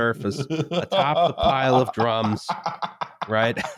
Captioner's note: laughs